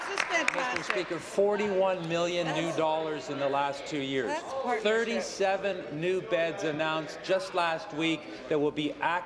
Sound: applause

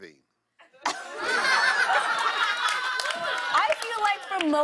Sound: laughter

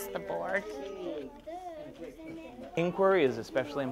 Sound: children chattering

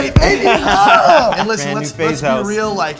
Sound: laughs

